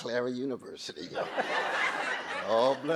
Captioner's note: audience laughing